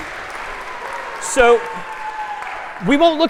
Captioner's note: تشویق، تشویق